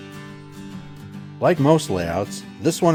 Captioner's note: voiceover